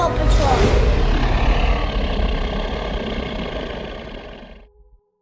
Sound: dinosaur roaring

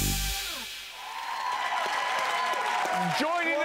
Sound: audience applauding

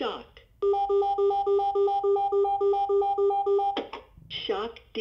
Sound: AED beeps

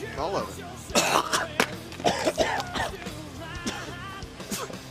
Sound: coughing

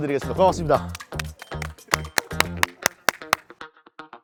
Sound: applause

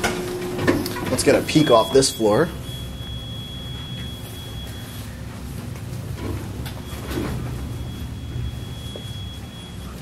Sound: elevator nudging tone

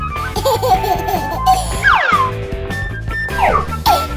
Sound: baby laughing

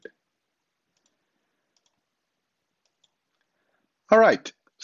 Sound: mouse clicking

